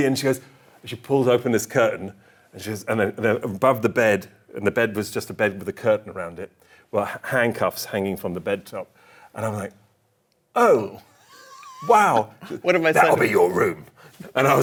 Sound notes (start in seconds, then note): 10.6 laughs